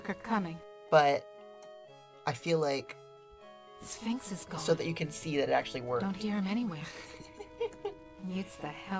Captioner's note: giggles